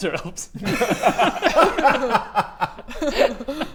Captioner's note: self-aware laughter